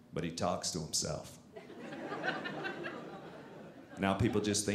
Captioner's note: audience laughing